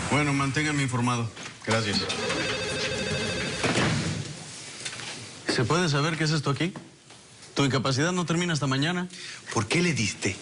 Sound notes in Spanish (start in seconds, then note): 3.6 Portazo